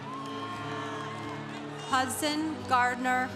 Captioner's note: congregation cheering